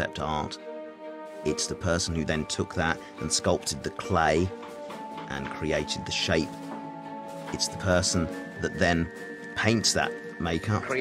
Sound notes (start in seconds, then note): none